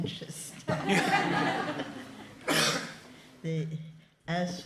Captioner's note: laughter